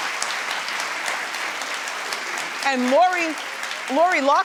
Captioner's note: audience cheering